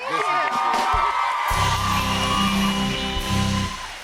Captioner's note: cheers and applause